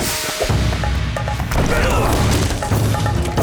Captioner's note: grunting